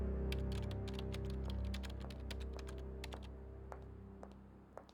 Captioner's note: keyboard keys clacking